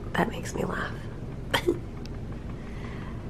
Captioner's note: chuckles